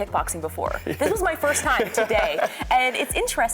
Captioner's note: laughing